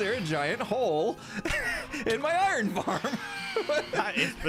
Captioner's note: nervous laughter; phantoms screaming